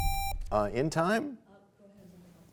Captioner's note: bell chimes